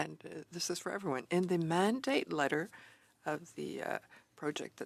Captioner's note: speaking French